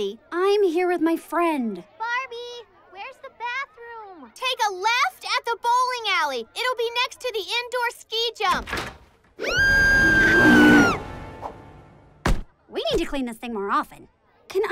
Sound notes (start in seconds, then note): 8.5 door opening; 9.4 screaming; 9.6 bear growling